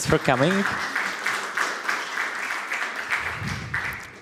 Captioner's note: applause